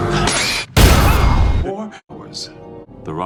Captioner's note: parry noises